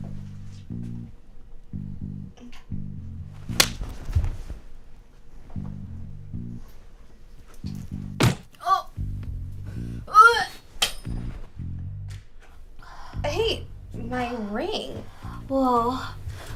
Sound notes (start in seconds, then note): 3.5 loud slap; 8.2 loud gut punch; 9.7 Gloria gagging; 10.8 ring bouncing off wall